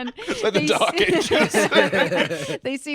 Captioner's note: all laughing